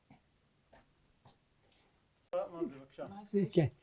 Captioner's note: hebrew